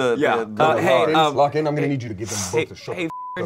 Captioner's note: beep